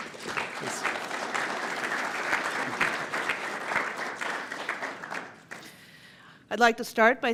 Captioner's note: applause